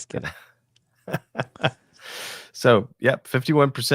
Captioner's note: laughing